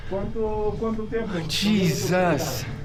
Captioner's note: people chattering